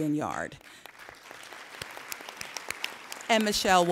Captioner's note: applauding